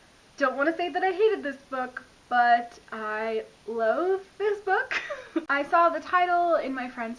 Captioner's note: laughs